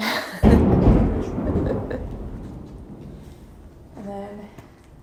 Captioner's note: chuckles; thunder roaring